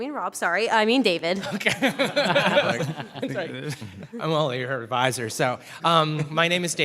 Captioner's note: laughter